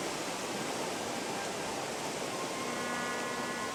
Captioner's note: splashing water